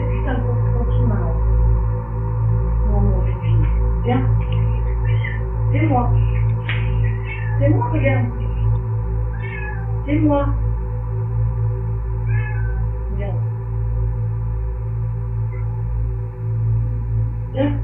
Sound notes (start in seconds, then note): 5.4 agitated meowing